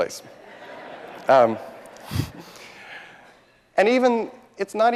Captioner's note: audience laughing